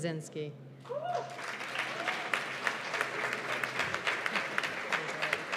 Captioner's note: cheers and applause